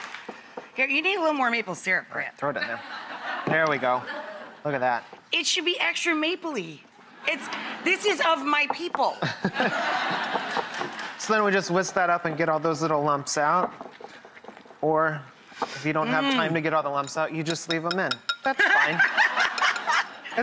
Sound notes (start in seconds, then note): 2.6 audience laughs; 9.2 audience laughs; 18.4 Rachael laughs